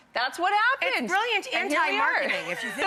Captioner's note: laughs